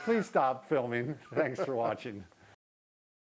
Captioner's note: both laughing